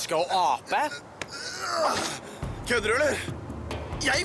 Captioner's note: grunting